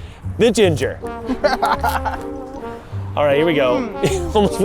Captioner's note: laughing